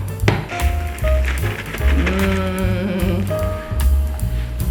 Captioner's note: counter thumping; upbeat music; bag crackling